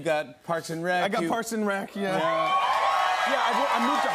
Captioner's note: cheers and applause